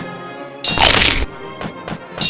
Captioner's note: Crunch